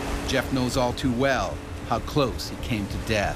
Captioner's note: voiceover